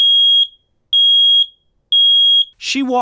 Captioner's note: loud high-pitched beeping